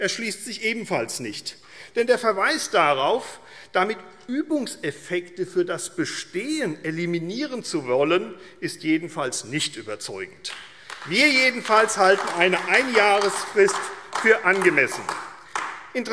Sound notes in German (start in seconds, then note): 10.4 Beifall AfD